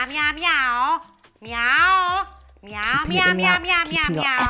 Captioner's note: meowing